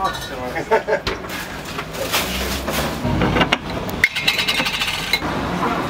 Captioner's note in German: Strassengeräusche